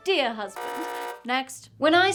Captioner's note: buzzer